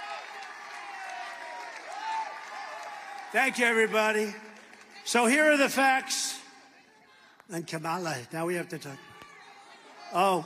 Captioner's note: applause